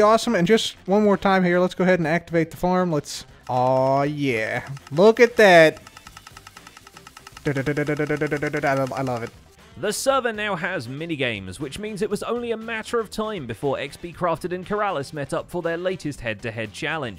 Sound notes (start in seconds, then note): 3.4 dispensers clicking